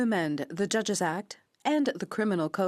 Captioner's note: speaking French